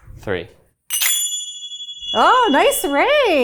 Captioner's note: zappers clacking